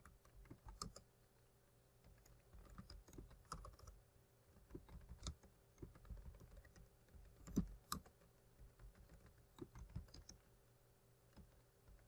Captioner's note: typing